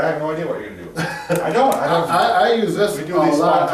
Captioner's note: laughs